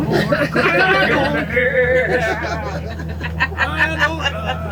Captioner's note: group laughing